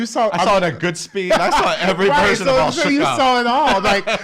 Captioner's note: laughs